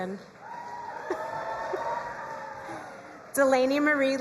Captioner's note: crowd cheering and applauding